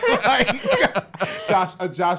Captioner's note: laughs